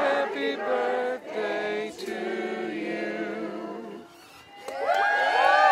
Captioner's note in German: Beifall